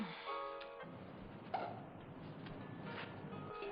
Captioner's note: cork pops